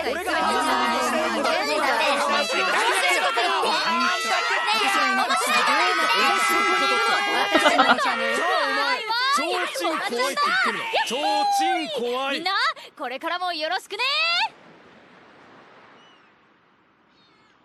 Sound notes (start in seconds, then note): 7.3 chuckles